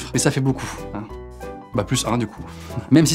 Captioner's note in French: rire